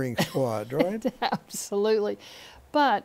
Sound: laughter

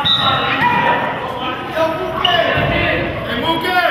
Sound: whistle blows

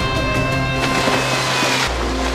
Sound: splash!

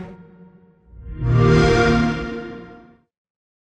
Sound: xbox sound

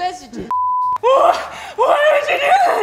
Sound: beep

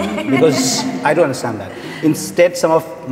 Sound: all Laughing

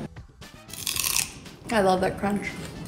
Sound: crunching

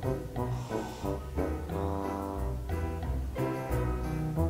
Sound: woman snoring

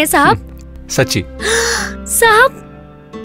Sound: gasps

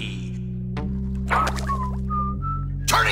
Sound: whistling

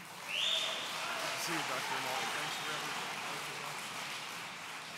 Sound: audience cheering

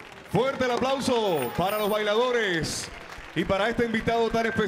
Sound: MC speaking in Spanish

